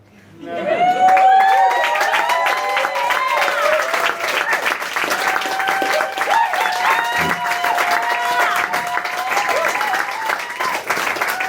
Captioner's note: applause and cheering